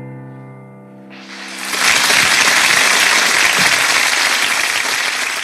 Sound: audience applauds

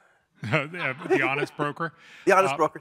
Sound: laugh

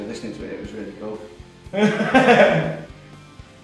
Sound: laughs nervously

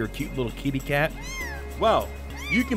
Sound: meows

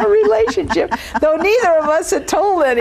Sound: laughing

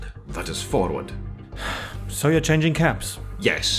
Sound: sigh

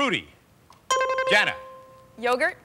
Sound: buzzer rings

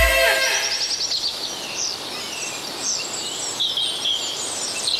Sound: birds singing

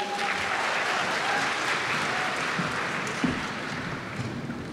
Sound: audience shouts and claps

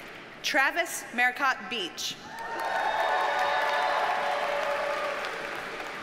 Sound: audience cheers and applauds

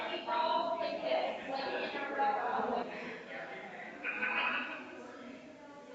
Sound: people chattering distantly continues

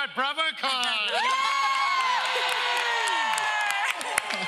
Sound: audience cheers

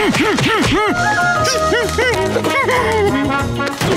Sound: humming

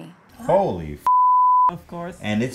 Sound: beeps

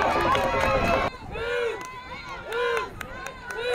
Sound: crowd chanting

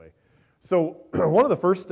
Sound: clears throat

